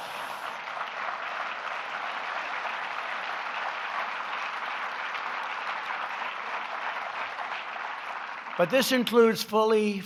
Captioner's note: laughter and applause